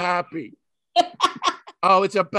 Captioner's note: laughing